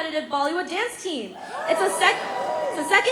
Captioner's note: cheering